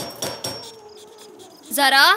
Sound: knock on the door

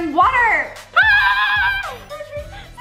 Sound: screaming

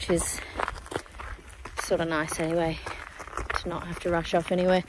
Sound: feet, gravel, crunch

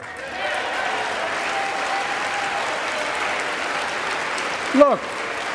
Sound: applause

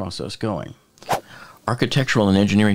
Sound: air whooshing

